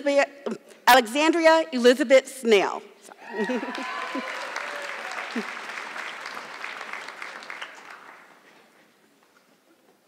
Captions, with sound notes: Alexandria Elizabeth Snell. (audience clapping)